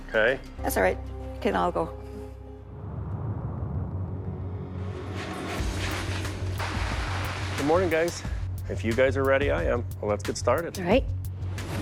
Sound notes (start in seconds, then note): 5.3 dramatic music; 5.5 plastic rustling